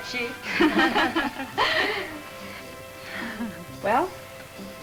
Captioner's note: women laugh